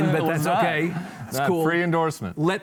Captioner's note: laughs